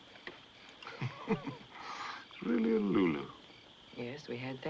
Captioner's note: chuckles